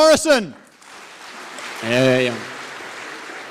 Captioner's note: audience applauding